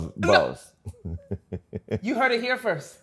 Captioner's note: laughs